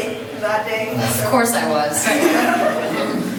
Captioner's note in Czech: smích